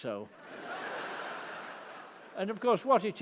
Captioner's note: laughter